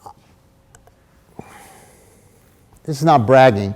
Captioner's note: sighs